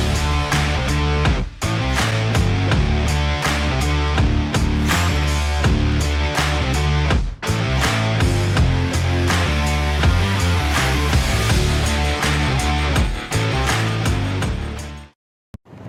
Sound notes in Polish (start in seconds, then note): 0.2 Aplauz